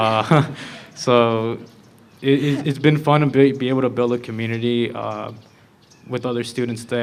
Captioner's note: laughter